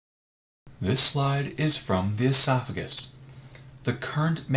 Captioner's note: voiceover